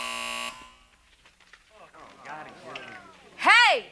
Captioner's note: buzzer; moans